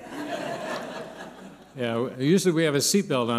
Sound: laughter

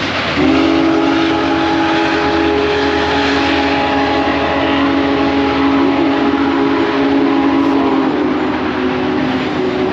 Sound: train whistle blows

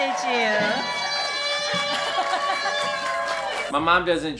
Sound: guests applauding and cheering

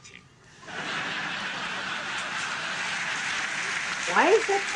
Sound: audience laughing

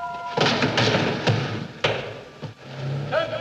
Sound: thud

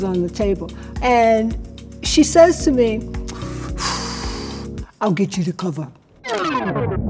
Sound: exhales

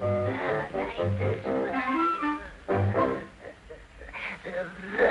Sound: laughing

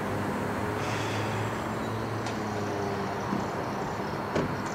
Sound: Tone sighs heavily

